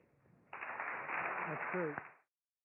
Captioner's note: applause